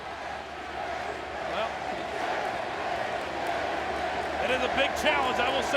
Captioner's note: audience chanting